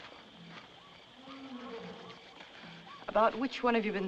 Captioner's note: animal Roars